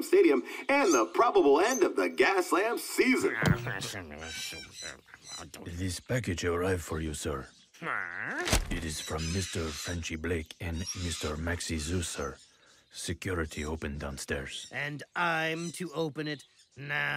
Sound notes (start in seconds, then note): 8.4 package thumps